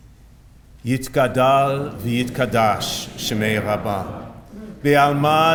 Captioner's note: reciting of the Mourner's Kaddish in Hebrew